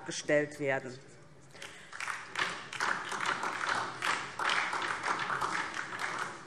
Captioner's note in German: Beifall DIE LINKE und vereinzelt SPD